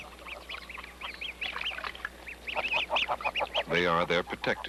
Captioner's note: chirping